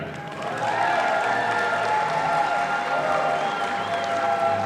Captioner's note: audience applauding